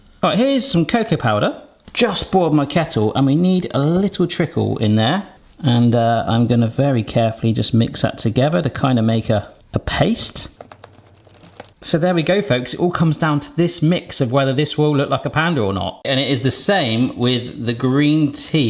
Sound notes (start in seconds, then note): 10.6 sticky paste sloshing